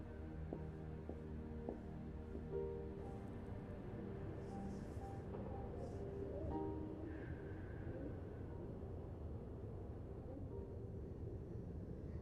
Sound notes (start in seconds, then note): none